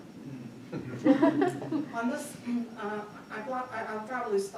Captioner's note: attendee chuckling